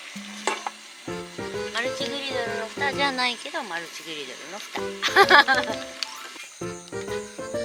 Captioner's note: laughs